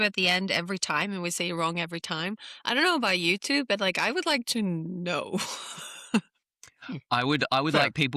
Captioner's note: laughs